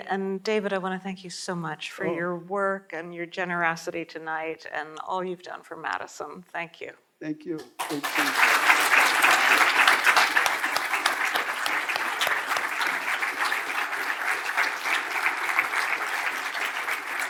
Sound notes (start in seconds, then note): 8.5 audience applauding